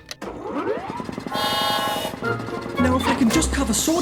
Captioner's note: whirring